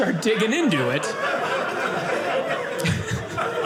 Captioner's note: audience laughing